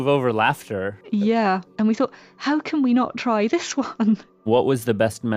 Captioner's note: laughs